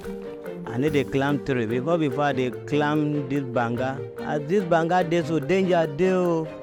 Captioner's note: speaking in foreign language